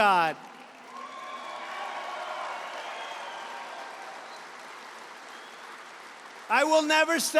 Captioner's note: applause